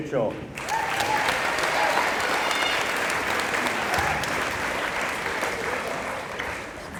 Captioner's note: applause